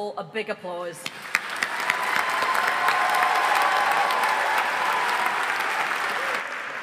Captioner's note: audience cheering and applauding